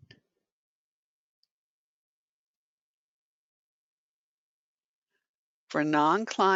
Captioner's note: 5 seconds pause